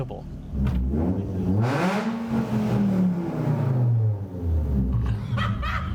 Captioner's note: car engine roaring; amused laughing